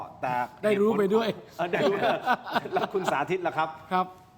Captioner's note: laughs